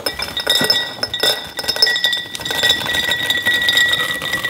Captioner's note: nuts clanking